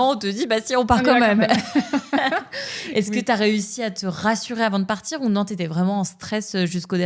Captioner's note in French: rires